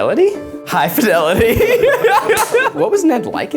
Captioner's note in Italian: Risate